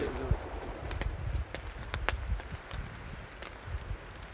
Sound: fire crackling

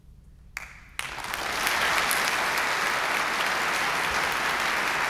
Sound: applause

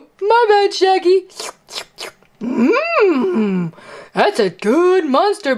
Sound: loud licking

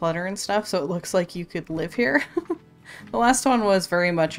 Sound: laughs

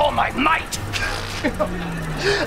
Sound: chuckles

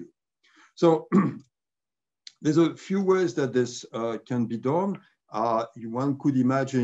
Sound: cough

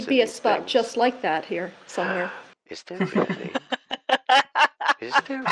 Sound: gasps

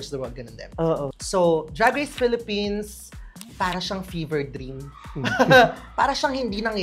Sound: laughs

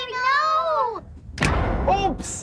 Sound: loud short bang

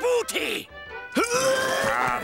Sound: grunting

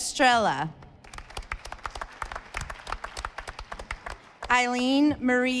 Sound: audience applauding

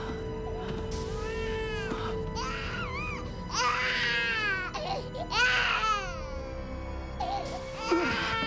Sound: baby crying

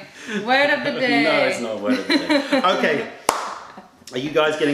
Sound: laughter

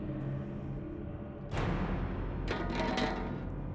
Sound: clattering

